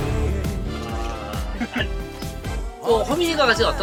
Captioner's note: chuckling